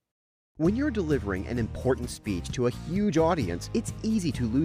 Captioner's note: voice-over